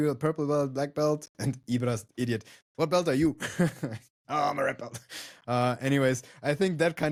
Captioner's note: laughs